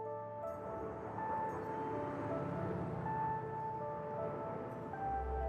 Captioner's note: engine rumbles; peaceful music